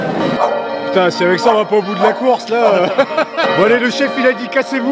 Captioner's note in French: rires